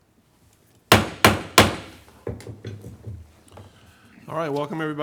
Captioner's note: gavel banging